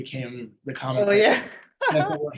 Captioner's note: laughing